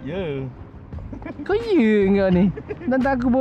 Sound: laugh

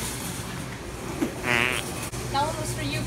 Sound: fart noise from mouth

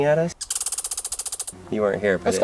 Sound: chipmunk chirping

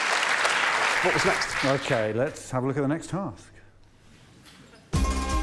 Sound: applause

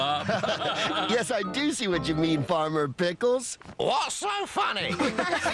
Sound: laughing

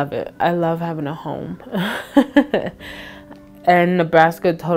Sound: chuckling

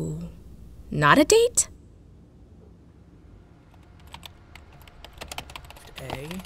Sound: clanking

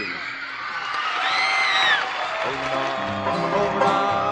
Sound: cheers and applause, music

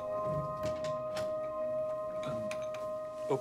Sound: door opens

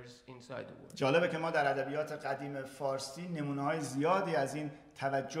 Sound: speaking in farsi

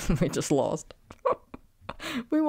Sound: laughing

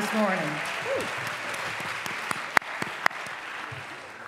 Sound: applause

